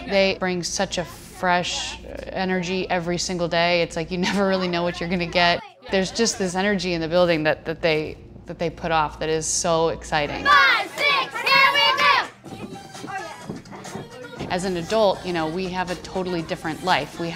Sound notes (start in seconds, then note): 10.6 all shouting